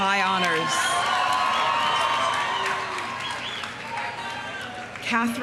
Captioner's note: audience cheering; audience applauding